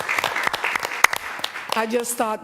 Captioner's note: applause